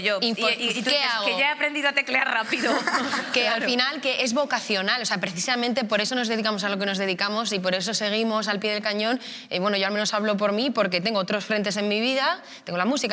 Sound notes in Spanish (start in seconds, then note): 2.4 algunos ríen